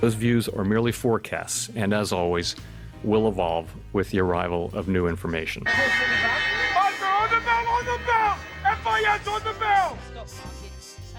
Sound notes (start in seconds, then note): 5.9 sirens blaring